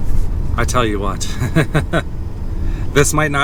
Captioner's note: laughter